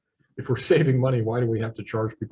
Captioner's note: chuckles